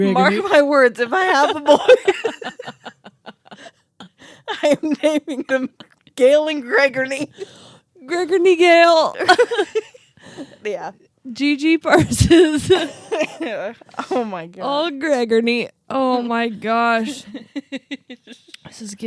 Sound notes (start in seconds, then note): 1.2 laugh; 9.2 laugh; 17.0 laughs